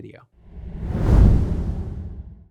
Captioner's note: graphic whooshing